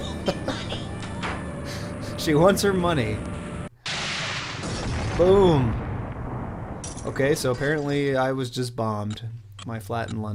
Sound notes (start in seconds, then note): 0.0 laughs; 3.8 explosion